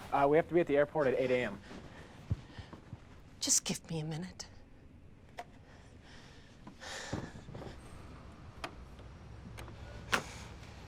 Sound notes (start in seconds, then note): 6.9 Kate sighs